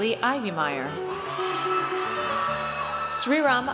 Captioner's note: audience cheers